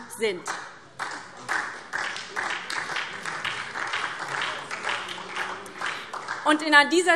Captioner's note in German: Beifall SPD